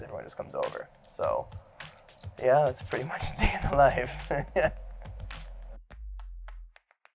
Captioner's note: laughs